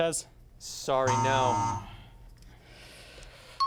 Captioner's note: buzzer sound